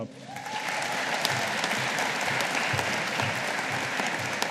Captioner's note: audience applauding